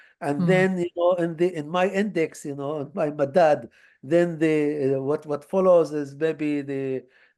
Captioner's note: hebrew